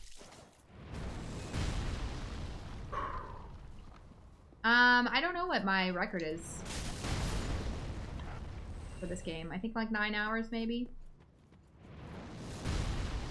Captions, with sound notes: The blister will do the work. [sigh] Uhm, I don't know what my record is. For this game. I think like nine hours maybe?